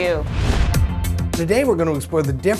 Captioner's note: note swooshes; upbeat music